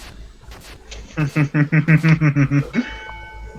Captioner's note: evil laugh?